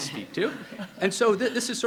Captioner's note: people laughing